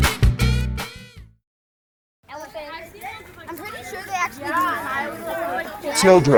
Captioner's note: children talking